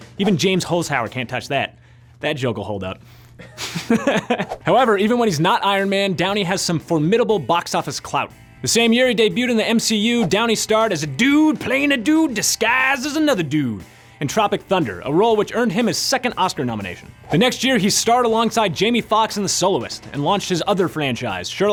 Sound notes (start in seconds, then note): 3.4 laughs